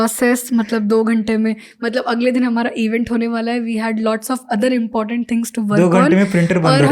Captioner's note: speaks in Hindi